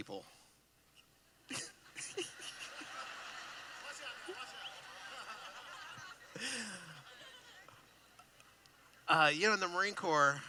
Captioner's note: laughing